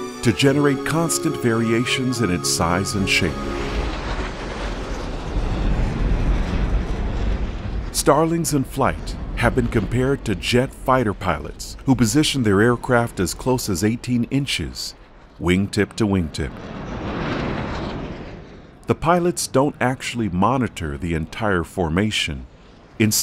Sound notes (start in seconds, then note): 3.8 planes whirring; 16.9 planes whining